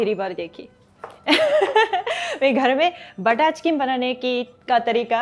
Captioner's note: chuckles